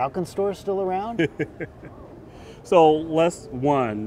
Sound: laughing

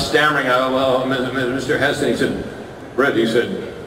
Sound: stammering

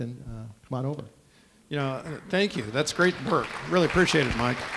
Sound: clapping

